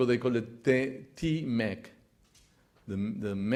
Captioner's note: speaks Spanish